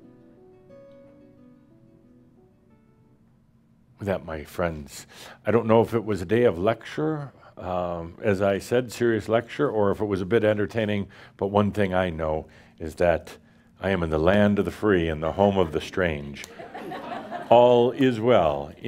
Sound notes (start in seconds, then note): 16.4 laughter